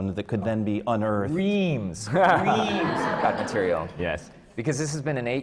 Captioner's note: laughter